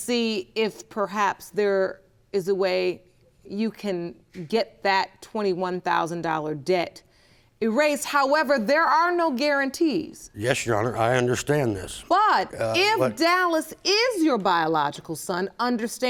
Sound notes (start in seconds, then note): none